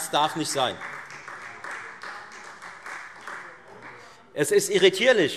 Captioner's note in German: Beifall Freie Demokraten